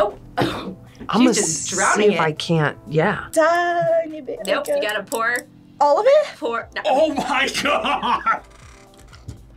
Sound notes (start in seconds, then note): 7.1 laughs